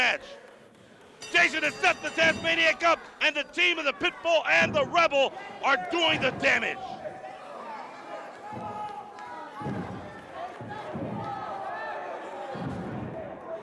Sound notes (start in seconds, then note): 0.3 crowd cheering; 4.1 bell ringing